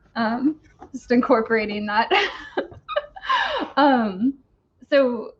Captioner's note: laughs